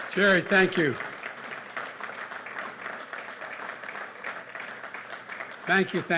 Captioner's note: applause